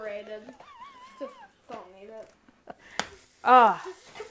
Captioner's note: laughs